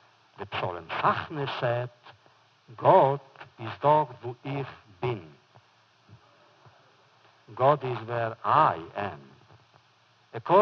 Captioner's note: foreign language